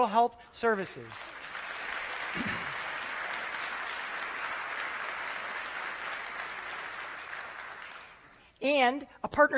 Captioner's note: applause